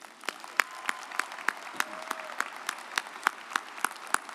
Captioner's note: audience applauds